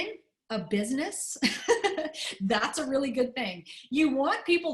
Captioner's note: laughter